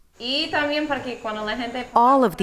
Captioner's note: speaking foreign language